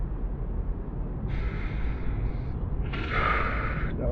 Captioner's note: long inhale